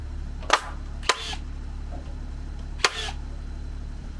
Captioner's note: board thuds; tool buzzes